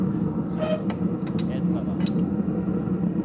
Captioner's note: squeak